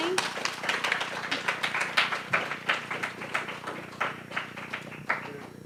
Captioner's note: applause